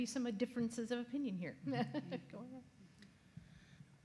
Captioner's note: laughs